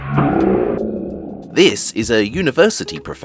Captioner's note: none